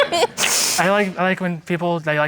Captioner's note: giggles